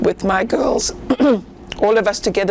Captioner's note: clears throat